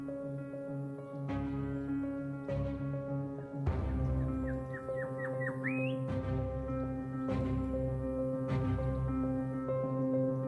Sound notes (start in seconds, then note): 0.4 dramatic music; 3.8 bird singing; 6.7 dramatic music